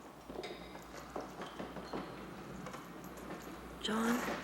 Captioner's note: footsteps echoing